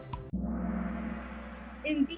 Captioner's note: gong